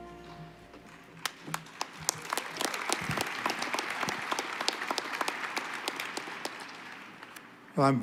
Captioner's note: applause